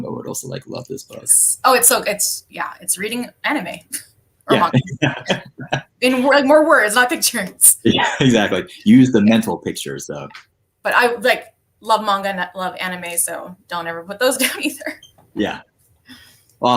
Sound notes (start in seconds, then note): 4.5 laughs; 15.4 chuckles